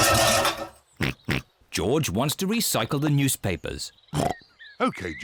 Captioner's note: cans clatter; snorts